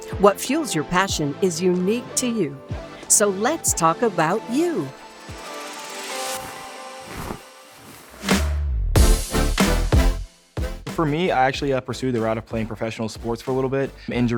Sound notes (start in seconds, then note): 6.1 lively music; 6.2 sheet rustling